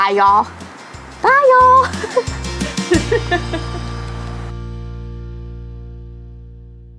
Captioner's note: laughs